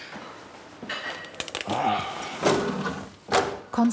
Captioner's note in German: Er stöhnt